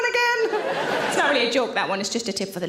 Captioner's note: audience laughs